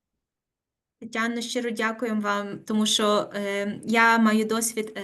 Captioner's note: speaking Ukrainian